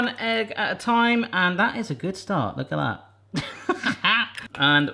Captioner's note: laughs